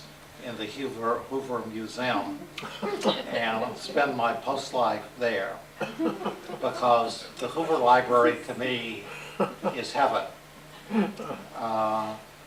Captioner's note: laughter